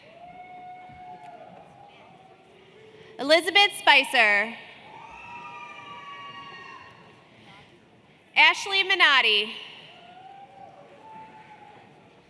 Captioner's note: applause